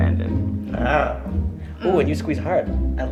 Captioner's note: tiger growl